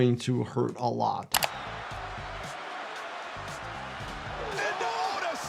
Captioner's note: audience cheering